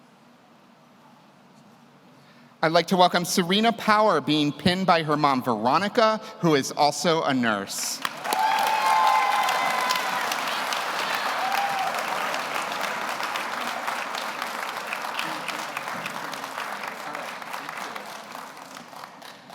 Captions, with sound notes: I'd like to welcome Serena Power, being pinned by her mom, Veronica, who is also a nurse. (audience cheers) (audience applauds)